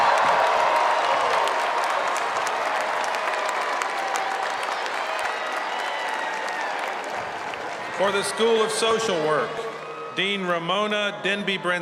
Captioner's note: cheers and applause